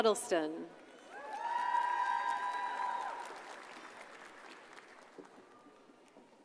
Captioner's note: audience cheers and applauds